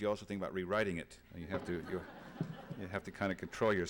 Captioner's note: laughter